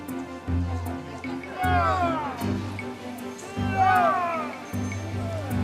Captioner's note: men heaving